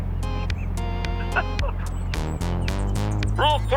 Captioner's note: whimpers while recalling several past loops